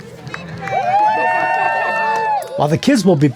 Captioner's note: crowd cheering